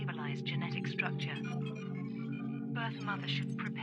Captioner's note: screen beeping and buzzing